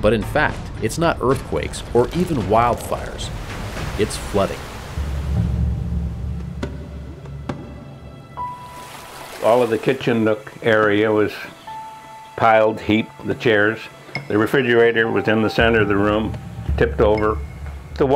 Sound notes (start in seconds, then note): 8.5 water gushing